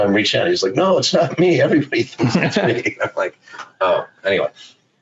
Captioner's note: laughs